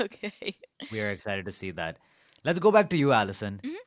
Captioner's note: laughs